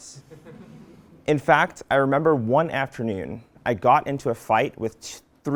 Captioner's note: laugh